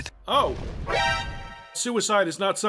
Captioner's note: alert